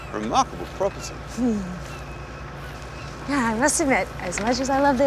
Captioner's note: chuckles